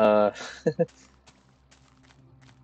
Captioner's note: laughs